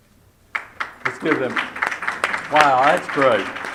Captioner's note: applause